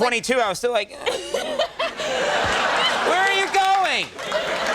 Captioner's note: groans